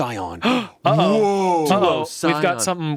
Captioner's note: gasps